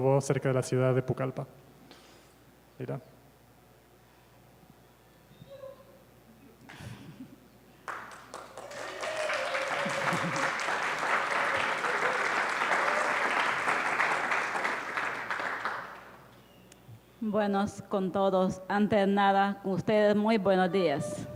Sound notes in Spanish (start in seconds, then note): 7.8 Aplausos